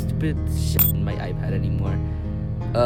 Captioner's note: ting